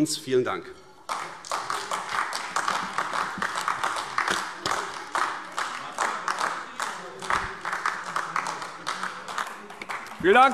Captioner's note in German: Beifall AfD